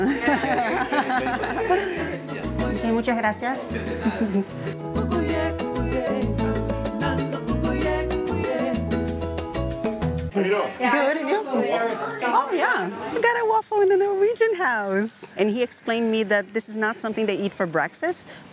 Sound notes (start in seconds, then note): 0.0 laughs; 3.4 in Spanish